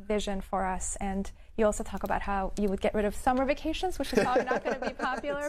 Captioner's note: laughs